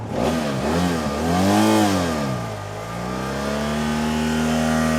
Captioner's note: motorcycle engine revving